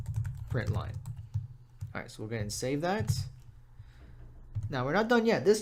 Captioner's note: typing